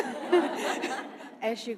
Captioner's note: audience laughing